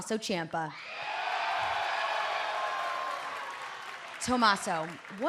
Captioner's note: cheers and applause